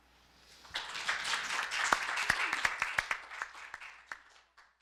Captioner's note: audience applauding